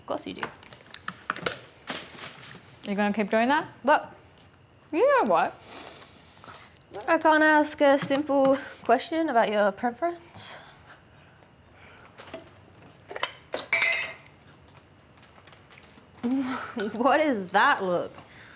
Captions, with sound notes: - Of course you do. - Are you going to keep doing that? - What? - You know what. - I can't ask a simple question about your preference? (jar lid clanging) What is that look?